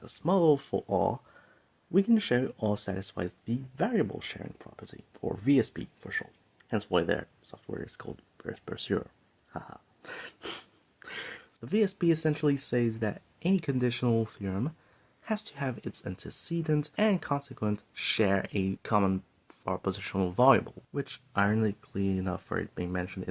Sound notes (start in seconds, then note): 10.1 haha